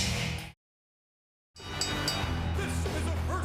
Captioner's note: bell dinging